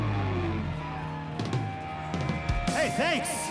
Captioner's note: cheering